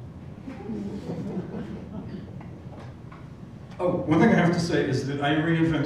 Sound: laugh

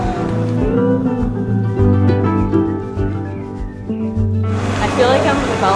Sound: upbeat music; cooing

